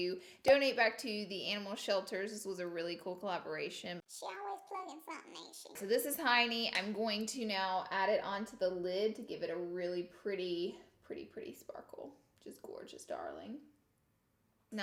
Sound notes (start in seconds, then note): 3.9 high-pitched voice